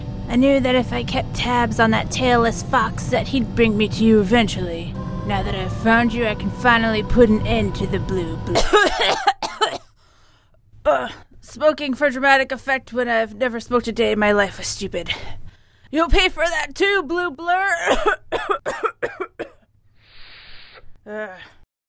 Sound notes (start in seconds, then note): 0.0 mellow synthesizer music; 8.5 Cream coughing; 10.8 groans; 17.8 coughs; 20.0 Cream inhaling